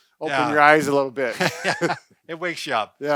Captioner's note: laughing